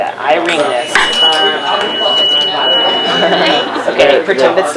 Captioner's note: tuning fork rings